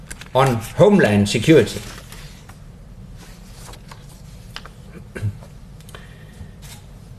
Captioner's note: cough